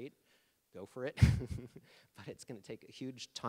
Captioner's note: laughing